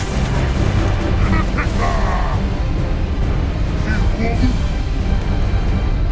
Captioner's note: shouts in alien language